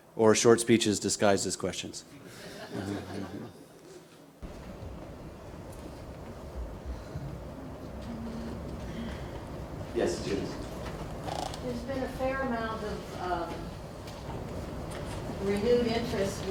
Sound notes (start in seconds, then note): 2.3 laughter